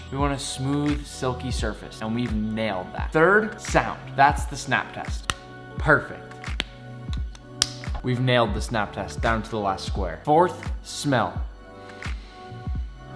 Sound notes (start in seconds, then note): 5.2 snapping; 7.1 snapping